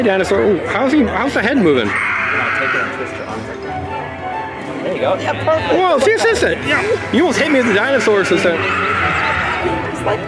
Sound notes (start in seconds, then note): 1.8 dinosaur roar